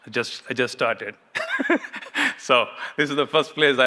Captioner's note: laughs